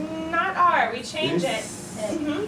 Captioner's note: voiceover